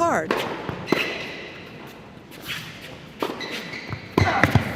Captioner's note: ball bouncing